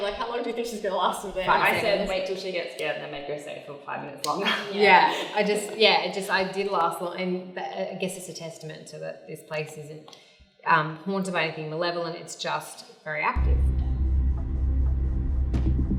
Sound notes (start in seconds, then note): 4.4 laughs